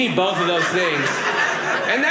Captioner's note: audience laughing